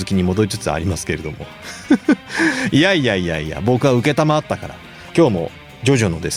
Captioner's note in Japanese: 笑い